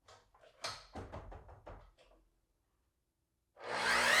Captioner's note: saw clicking; saw whirring